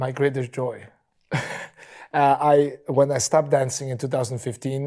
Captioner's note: chuckles